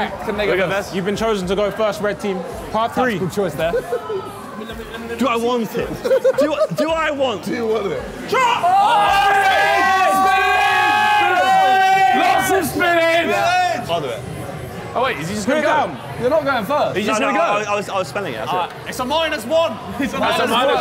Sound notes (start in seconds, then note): 5.8 laughing